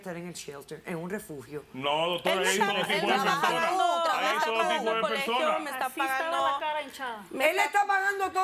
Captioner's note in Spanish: Hablan al unísono